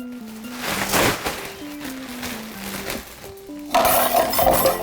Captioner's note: bag bellowing; metal and plastic clattering